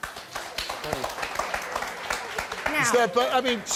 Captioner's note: applause